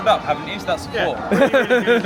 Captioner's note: laughing